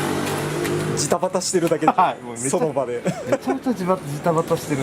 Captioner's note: laughs